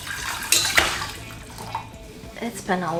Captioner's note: water rushing; lid clatters